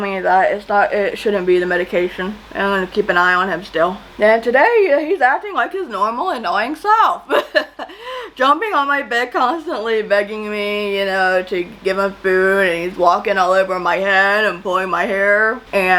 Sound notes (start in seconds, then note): 7.2 chuckles